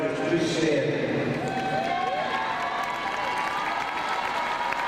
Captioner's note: crowd cheering